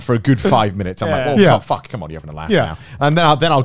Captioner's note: murmurs